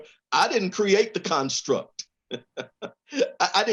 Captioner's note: laughs